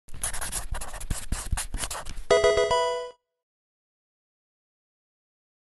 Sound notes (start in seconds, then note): 0.1 pencil writing; 2.3 Pokemon game sound